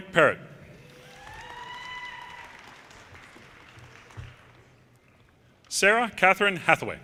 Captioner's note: audience cheers and applause